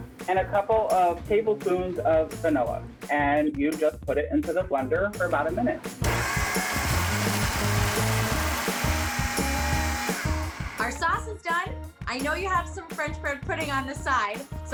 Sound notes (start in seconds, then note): 6.0 blender buzzing